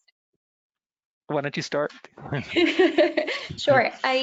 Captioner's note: laughs